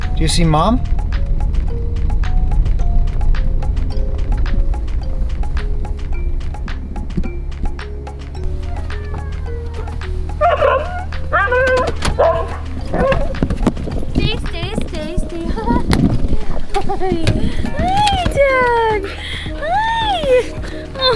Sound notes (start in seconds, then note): 1.2 soft music; 9.8 Laska barking